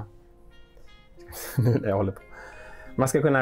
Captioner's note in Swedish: skrattar